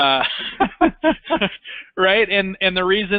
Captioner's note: laughs